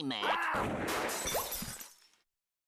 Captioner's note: gun firing; glass breaking